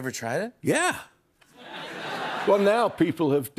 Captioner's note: laughter